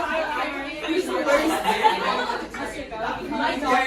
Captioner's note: chatter as people decide who to send